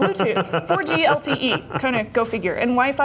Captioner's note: laughter